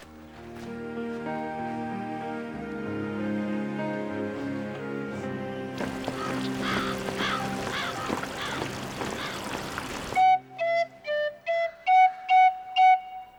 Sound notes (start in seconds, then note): 0.3 somber music; 5.7 water splashing; 5.8 bird calling; 9.4 flute music